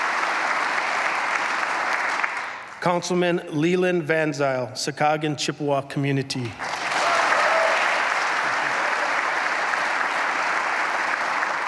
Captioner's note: applause